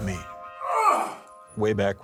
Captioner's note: grunting